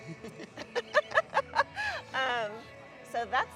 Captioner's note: both chuckling